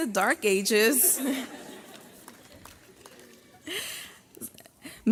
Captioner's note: graduates laugh